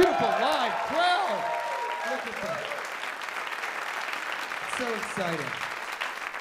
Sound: applause

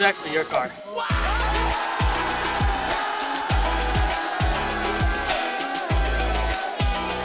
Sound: upbeat music; crowd cheering

